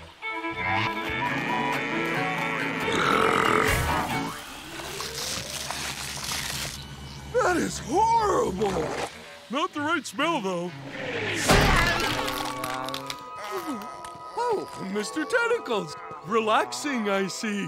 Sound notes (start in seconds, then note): 1.1 mooing; 1.2 belching